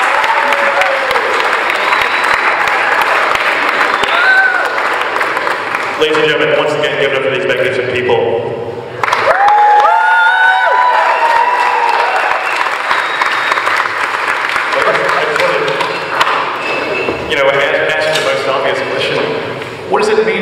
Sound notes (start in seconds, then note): 11.6 applause and cheering from the crowd